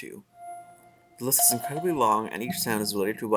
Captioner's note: various sound effects play